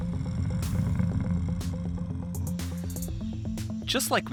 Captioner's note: gorilla growling